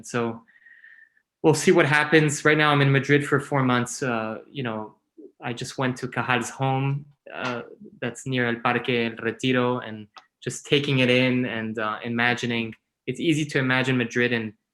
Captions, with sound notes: So we'll see what happens right now, I'm in Madrid for four months, you know, I just went Cajal's home, that's near (speaking in foreign) and just taking it in and imagining it's easy to imagine Madrid